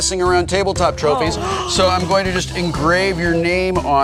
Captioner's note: gasps